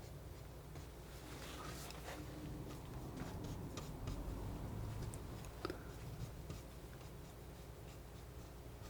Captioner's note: scratching